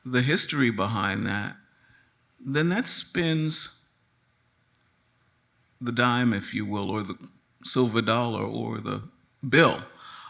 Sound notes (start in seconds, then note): none